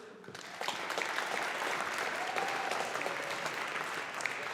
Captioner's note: audience applauding